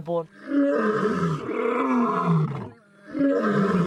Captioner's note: lion roaring